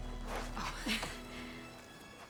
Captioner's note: laugh